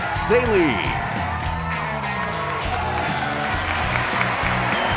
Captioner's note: cheers and applause